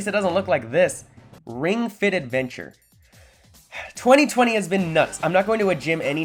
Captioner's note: heavy sigh